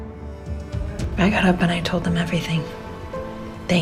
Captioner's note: voiceover